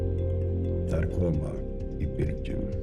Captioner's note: non-english speech